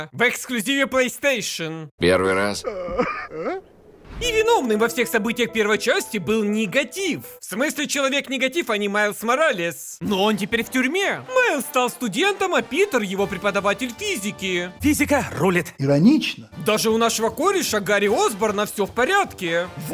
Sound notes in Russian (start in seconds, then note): 3.3 Хныкает